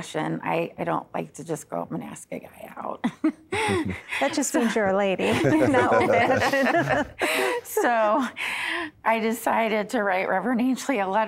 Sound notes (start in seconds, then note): 3.0 giggling; 5.2 laughter